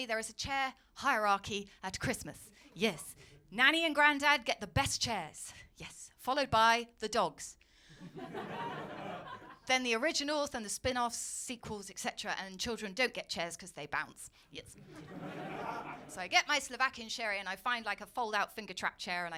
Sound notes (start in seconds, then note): 8.1 audience laughing